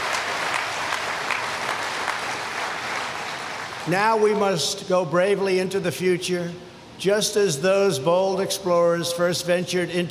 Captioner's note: applause